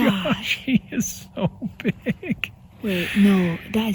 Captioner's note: laughing